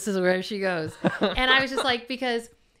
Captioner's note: laughter